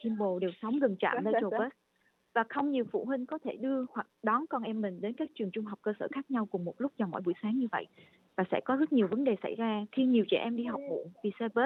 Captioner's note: speaks non-English language